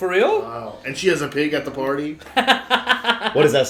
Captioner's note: laughter